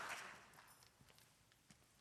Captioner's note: applause